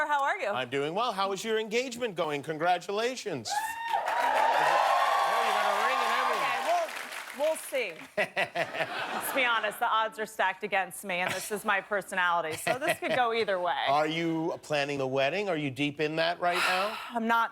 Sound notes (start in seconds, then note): 7.9 cheers and applause